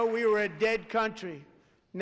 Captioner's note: applause